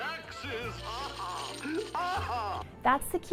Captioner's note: laughing